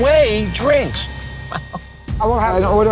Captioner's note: laughing